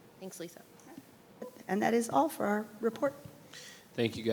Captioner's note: speaks faintly